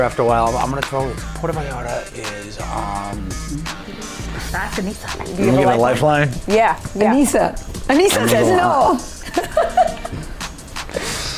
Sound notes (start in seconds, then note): 3.7 upbeat music continues; 8.0 chuckles